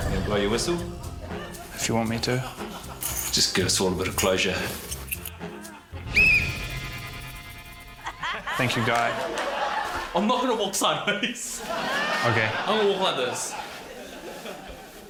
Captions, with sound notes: - You wanna blow your whistle? - If you want me to. - Just give us all a bit of closure. - (BLOWS WHISTLE) Thank you, Guy. - I'm not going to walk sideways. (CHUCKLES) - OK. - I'm going to walk like this.